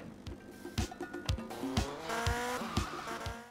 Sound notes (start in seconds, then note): 0.2 continuing on a radio; 2.2 motorcycle engine sounds